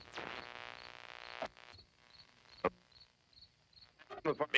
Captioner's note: static buzzing; frequencies tuning